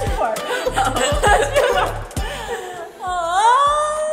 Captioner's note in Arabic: كلاهما يضحك